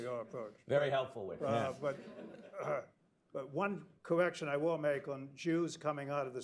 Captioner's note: laughter